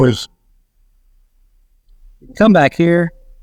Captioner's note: audio distorts